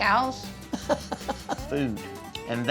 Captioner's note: laughing